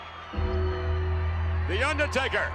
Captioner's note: bell tolls